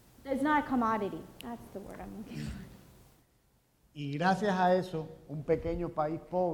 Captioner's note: speaking in Spanish